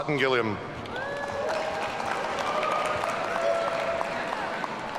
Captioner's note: audience cheering